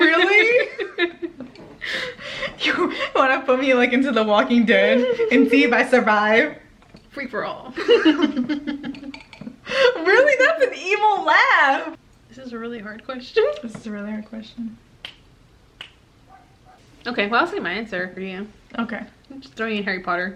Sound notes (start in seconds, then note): 7.8 evil laugh